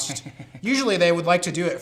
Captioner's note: snickering